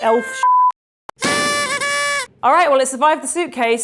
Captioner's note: confetti popping